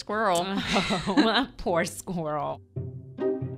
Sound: laughs

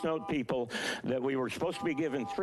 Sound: beeping

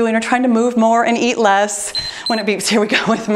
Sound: timer beeps

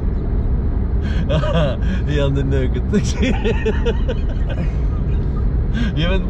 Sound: laughing

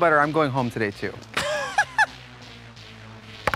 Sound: laughs

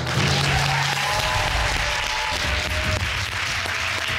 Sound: all applauding

